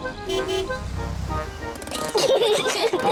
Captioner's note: honks horn; peppa and george giggle